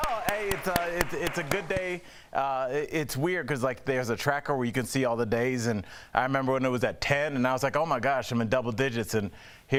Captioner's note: applause